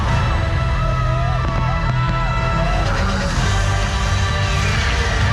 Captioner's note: crowds cheering